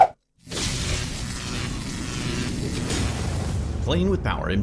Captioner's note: electricity crackles